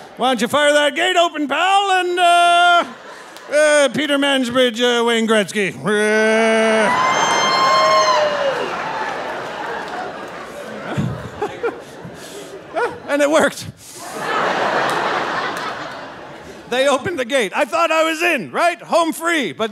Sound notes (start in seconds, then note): 5.9 audience laughing and cheering; 10.6 laughing; 13.9 audience laughing